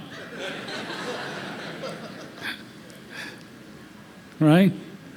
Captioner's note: laughter